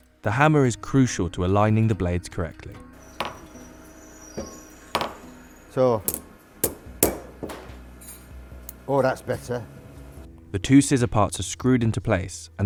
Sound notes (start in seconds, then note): 6.8 tapping